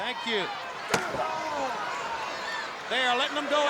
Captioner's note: leather cracking